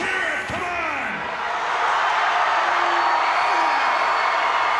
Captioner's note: audience cheers